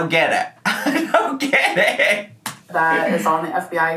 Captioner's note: laughing